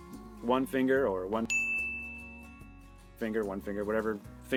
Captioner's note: dinging